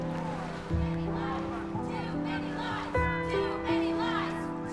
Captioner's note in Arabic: هتاف